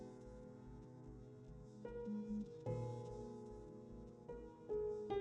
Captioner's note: none